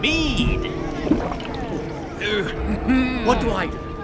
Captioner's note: swallowing loudly